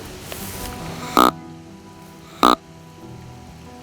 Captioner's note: soft music; sound of grunt call